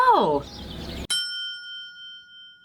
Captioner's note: bell chime